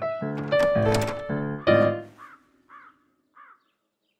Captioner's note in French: croassements au loin; gammes au piano